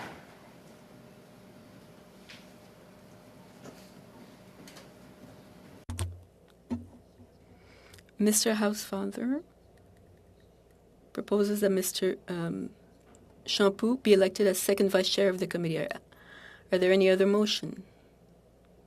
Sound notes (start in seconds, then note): 4.0 speaking French